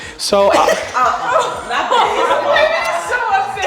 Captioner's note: all laughing